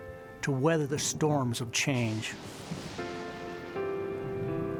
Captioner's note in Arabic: هدير الرعد